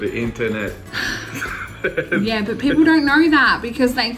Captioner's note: sighs